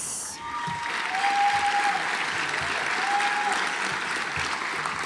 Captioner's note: audience applauds